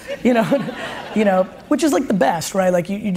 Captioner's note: audience laughs